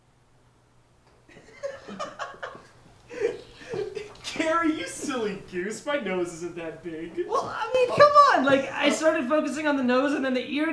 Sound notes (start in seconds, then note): 3.2 laughs